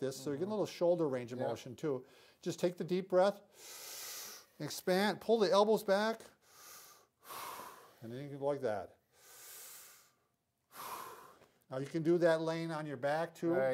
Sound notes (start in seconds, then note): 3.5 they inhale; 7.2 they exhale; 10.6 they inhale and exhale